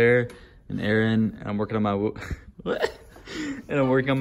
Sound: laughs

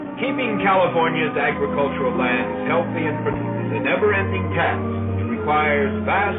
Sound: voiceover

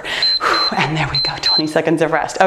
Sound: timer beeps

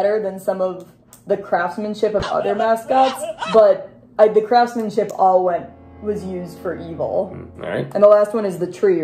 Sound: screaming sound

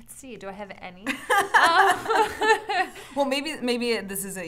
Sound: both laughing

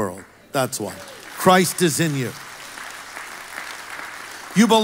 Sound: congregation applauds

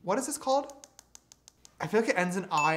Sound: tapping

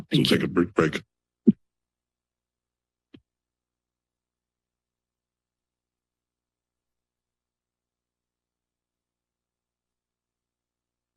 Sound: silence

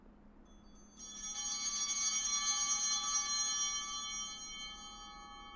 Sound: bells ringing

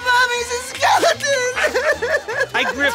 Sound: crying

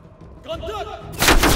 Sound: gunshots

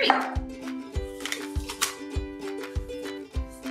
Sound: crunch

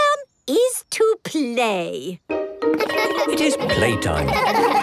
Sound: laughter

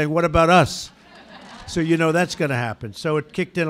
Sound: laughter

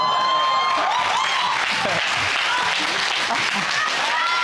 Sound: audience applauding; audience exclaiming

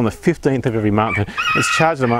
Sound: rooster crowing

